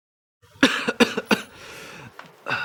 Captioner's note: cough cough